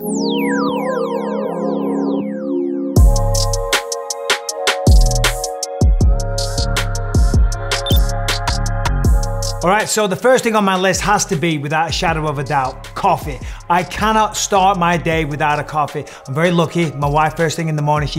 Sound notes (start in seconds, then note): 0.3 relaxed dub music; 7.8 graphic blips